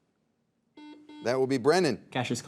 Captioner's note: buzzer dings